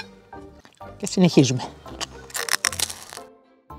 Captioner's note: Crunch noise